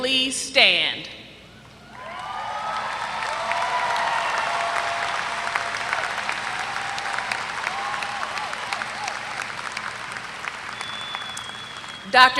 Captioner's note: applause